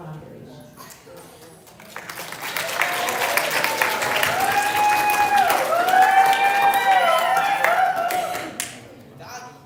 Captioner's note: applause